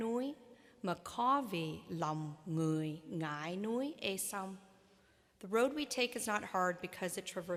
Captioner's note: speaking vietnamese